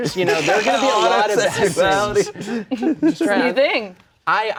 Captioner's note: laughs